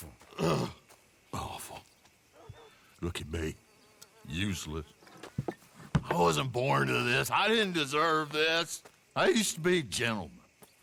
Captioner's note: grunts